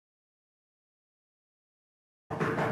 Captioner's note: knocking